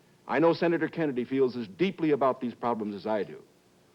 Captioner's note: none